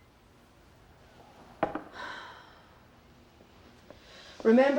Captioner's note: claire sighs